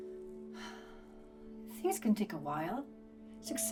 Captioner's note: sighs